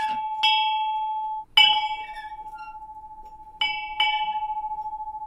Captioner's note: bell clanging continues